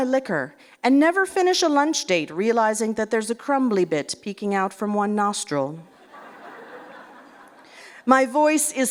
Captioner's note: laughter